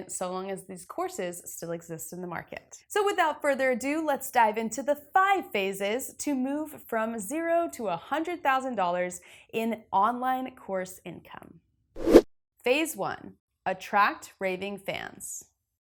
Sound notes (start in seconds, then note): 12.0 graphic whooshes